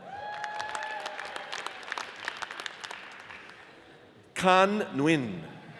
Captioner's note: audience cheers and applauds